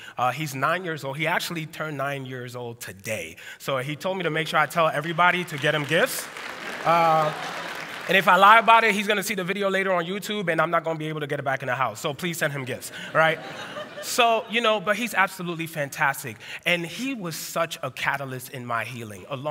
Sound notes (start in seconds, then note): 6.6 applause; 6.6 laughter